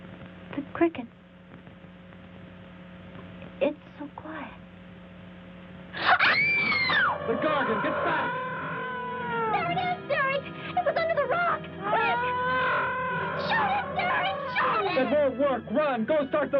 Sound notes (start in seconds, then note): 6.0 gargon wails; 7.2 frenzied orchestral music